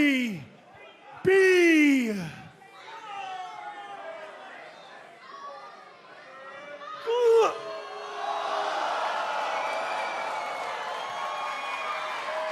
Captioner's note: crowd cheering